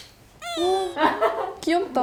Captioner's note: awww